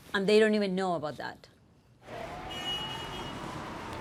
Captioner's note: horn honks